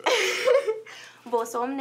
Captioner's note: laughs